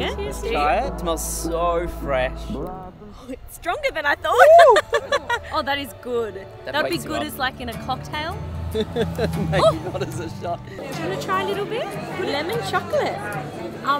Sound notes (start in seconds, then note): 4.4 laughing; 8.7 laughs